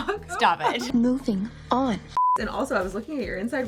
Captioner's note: beeping